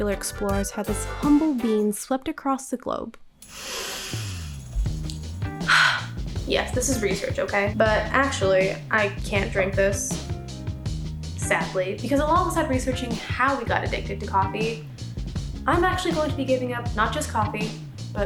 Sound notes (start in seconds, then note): 3.4 inhaling; 5.7 exhaling